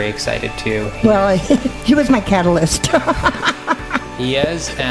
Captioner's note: laughing